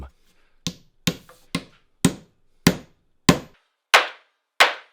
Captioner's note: hammer banging